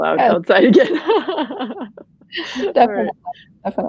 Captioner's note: laughing